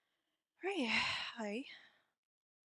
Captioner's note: sigh